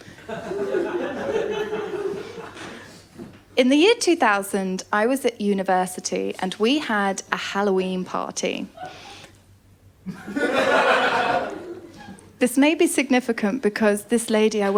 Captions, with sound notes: [LAUGHTER] In the year 2000, I was at university and we had a Halloween party. [LAUGHTER] This may be significant because this lady